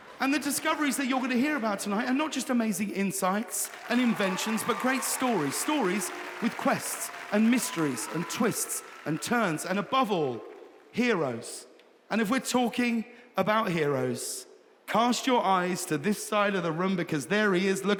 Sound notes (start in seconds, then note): 3.9 audience cheering